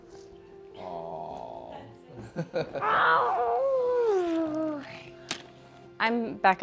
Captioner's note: raarrrrghh!